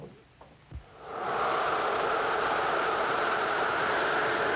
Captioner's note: wind blowing